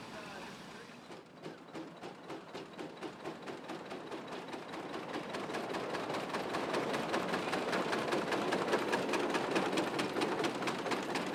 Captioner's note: steam engine